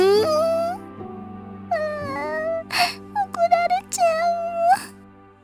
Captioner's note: whimper